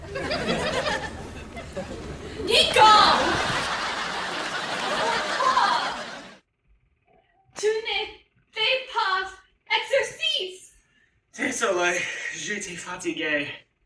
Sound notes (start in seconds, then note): 2.7 laughter gets Louder